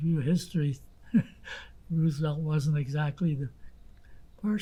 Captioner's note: laughing